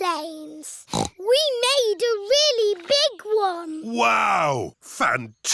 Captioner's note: snorts